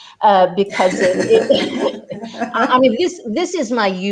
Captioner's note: laughing